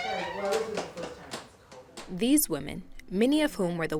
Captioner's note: door creaks open